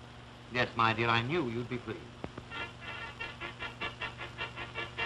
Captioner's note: horns blowing